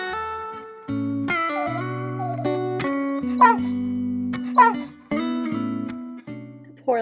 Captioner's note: doggy whine... woof, woof